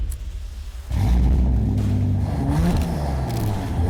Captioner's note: car revs